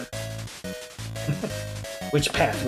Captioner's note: chuckles